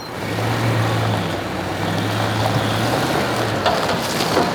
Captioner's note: engine revving